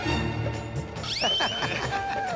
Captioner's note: laughing